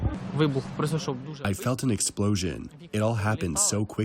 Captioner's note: through translator